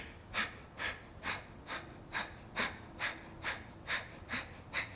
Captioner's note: inhales and exhales